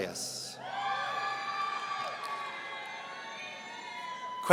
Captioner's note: audience cheering